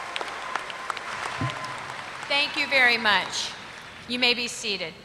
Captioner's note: applause